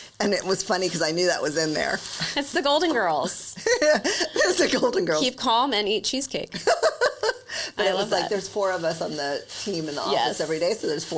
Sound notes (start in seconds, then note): 3.6 laughs; 6.5 laughs